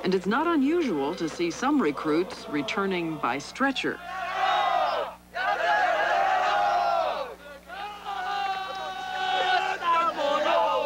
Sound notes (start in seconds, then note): 3.9 cheering in Japanese